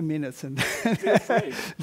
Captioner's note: laugh